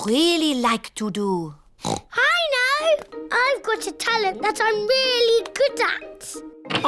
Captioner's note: oinks